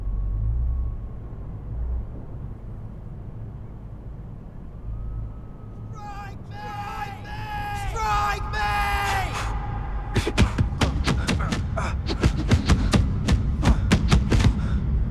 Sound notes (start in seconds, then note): 10.2 punches thudding; 12.6 X groaning